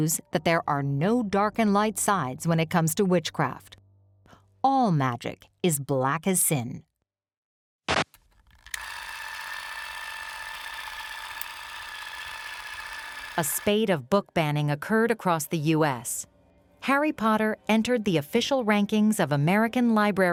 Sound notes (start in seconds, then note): 10.8 film whirring